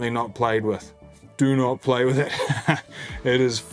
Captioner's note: laughs